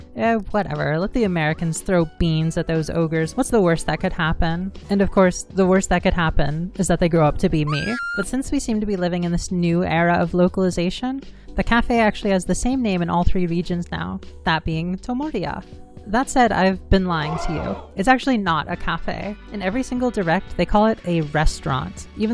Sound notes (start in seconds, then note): 7.6 woman screaming; 17.2 crowd gasping